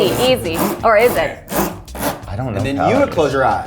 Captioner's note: wheel clicking